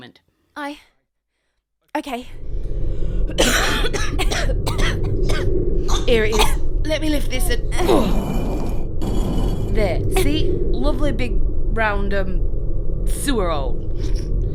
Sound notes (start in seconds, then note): 2.4 both cough; 9.0 concrete manhole cover scraping